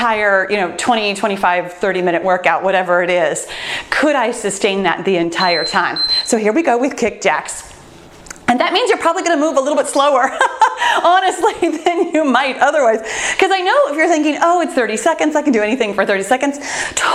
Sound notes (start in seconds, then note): 5.3 timer beeps; 10.3 laughs